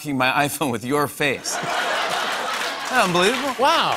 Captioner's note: laughter